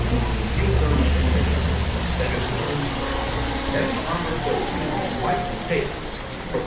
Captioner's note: jurassic park ride ambience